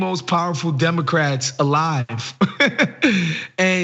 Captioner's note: laugh